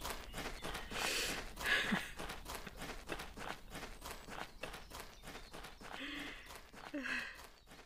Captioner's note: laughing...or is she crying?